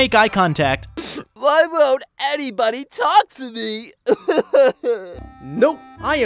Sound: cries

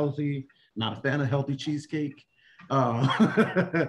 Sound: laughter

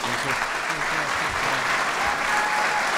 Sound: applause

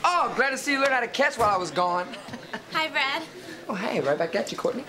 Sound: laughs

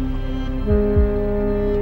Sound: upbeat music; ship hooting

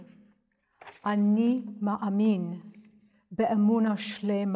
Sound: speaks in Hebrew

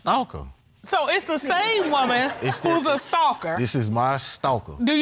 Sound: all laughing

